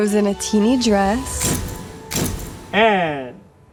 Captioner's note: camera shutter clicking